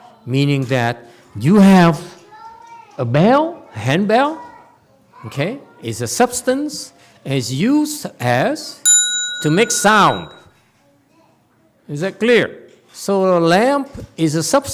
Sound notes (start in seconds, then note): 8.8 rings bell